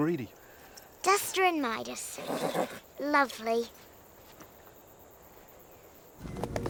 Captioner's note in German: Pferd wiehert